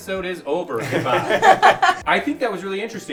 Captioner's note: all laughing